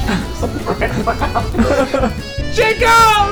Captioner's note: clapper claps; playful music